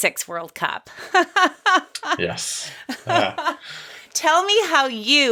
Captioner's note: laughs